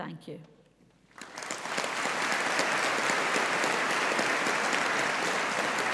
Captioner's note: audience applauding